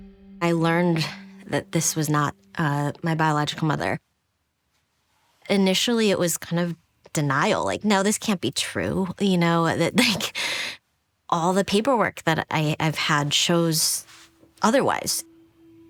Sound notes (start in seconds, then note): 10.1 laughs